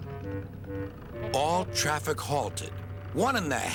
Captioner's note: toots; honks